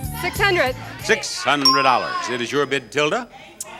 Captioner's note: bell dings